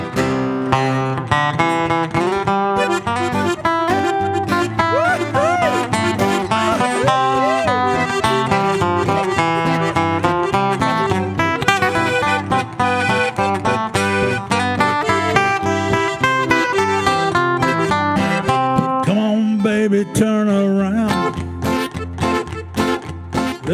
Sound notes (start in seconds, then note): 0.1 bright music continues; 4.8 attendees cheering; 4.9 bright music continues